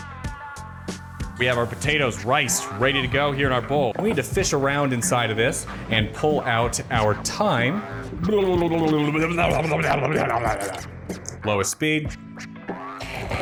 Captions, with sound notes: We have our potatoes, riced and ready to go here in our bowl. We do fish around inside of this and pull out our thyme. *wet barfing noises* Start on the lowest speed.